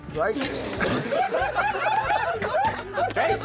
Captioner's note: laughter